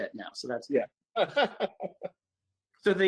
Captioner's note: laughs